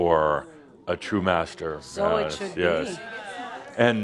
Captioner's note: audience agrees